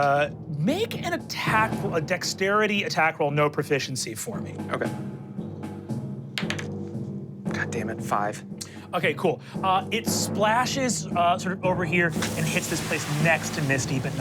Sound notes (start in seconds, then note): 4.4 slow drum beat; 6.3 dice rolling; 12.1 water splashing